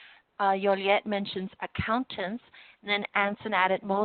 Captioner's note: spanish